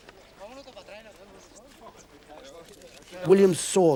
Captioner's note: people speaking in foreign language